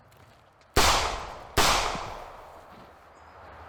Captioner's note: gunshots